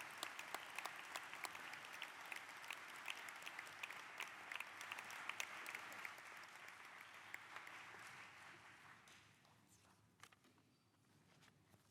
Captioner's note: applause